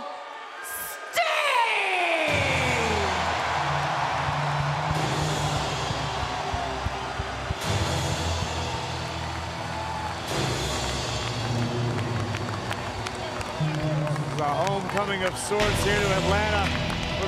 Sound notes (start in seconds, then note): 2.5 crowd cheers; 2.5 grand orchestra music plays